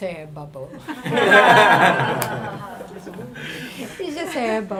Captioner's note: audience laughing